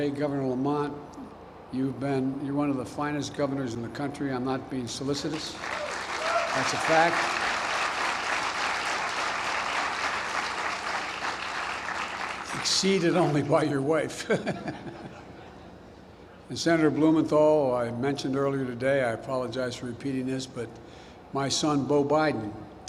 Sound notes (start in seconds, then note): 7.8 applause; 14.2 laughs